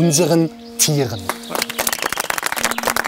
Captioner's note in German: Applaus